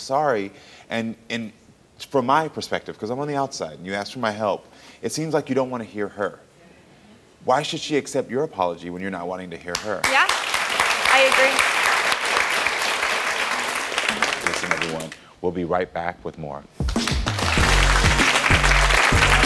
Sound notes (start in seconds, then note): 10.0 audience applauds; 16.8 upbeat music